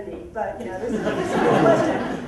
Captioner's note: laughter